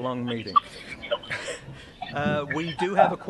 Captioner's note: laughter